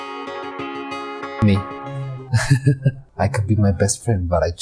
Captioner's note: laughs